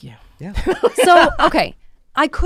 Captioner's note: laughs